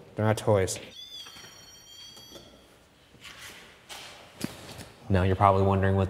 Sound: machine whirring

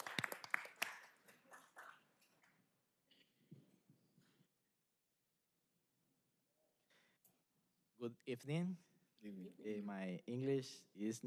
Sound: applause

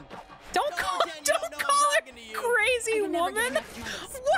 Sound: laughing

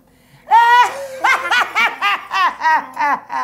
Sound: evil laugh

